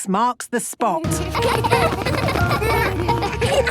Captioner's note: laughter